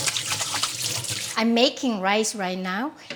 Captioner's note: water running